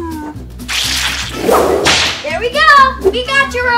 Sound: swing flute; whip lashes; doll sloshing

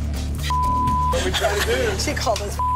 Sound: beeping

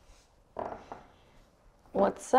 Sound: floor creaks

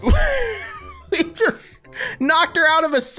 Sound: laughter

